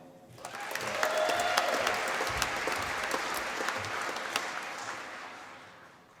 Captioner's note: applause